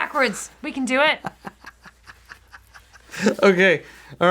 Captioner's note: laughing